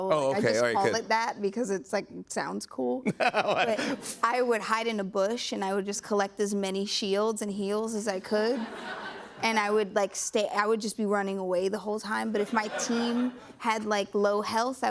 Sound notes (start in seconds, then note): 3.1 laughs